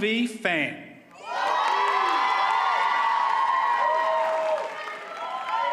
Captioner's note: audience cheers and applauds